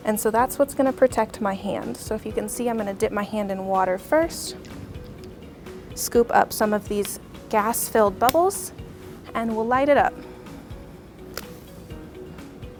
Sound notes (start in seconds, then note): 8.2 lighter flicks; 11.3 flame ignites